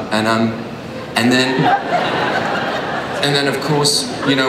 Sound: audience laughs

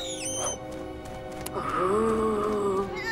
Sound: squeaking; moaning

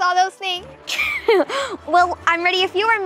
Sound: giggles

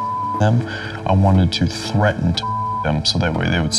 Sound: beep; beep

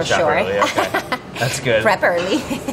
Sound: laughing

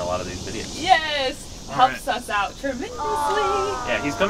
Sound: aw

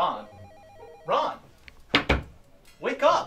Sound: knock

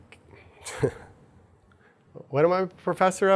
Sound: chuckles

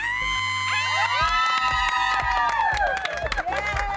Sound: cheering

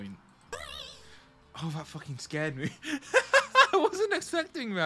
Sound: laughs in terror

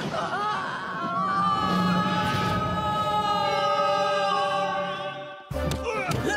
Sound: all screaming

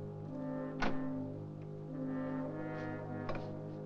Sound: door locks; ominous music

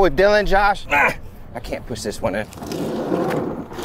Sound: grunts

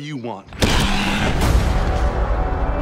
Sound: Skull-Crawler noise

